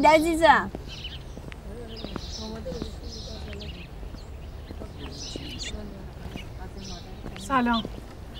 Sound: birds singing

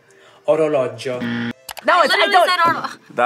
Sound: buzzer rings

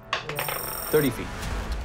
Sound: dice rolling

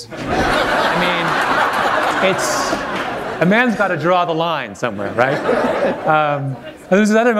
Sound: laughter

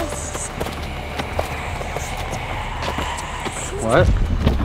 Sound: voice whispering

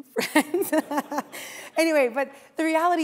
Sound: laughs

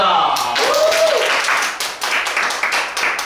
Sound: clapping

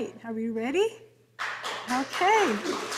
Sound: audience applauding

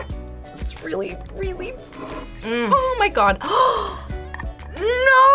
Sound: gasps

